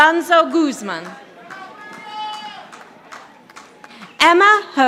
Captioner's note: audience applauding